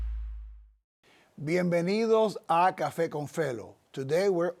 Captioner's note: speaking in Spanish